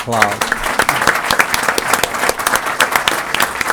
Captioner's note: applause